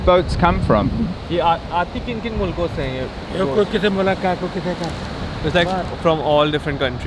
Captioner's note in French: Langue locale